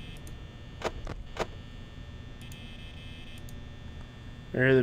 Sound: footstep noises!

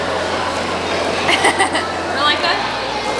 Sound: laughing

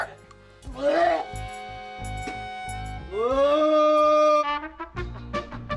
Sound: vomiting; happy music

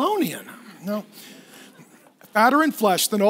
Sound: laughing

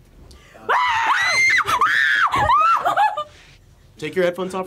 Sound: screams

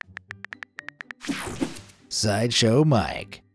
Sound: image whooshing

